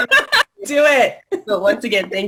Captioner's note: laughter